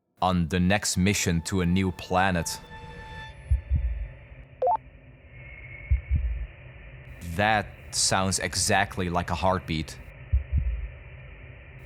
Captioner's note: heartbeat